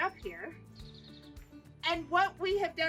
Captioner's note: birds chirping